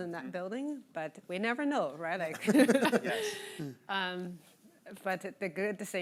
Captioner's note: laughing